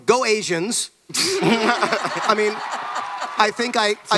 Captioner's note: laughter and cheering